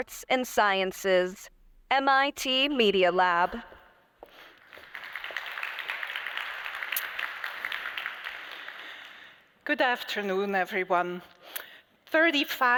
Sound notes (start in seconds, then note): 4.3 applause